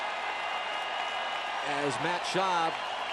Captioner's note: cheering